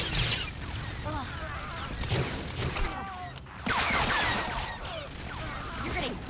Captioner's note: gun fires